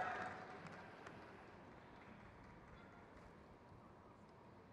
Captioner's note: crowd cheers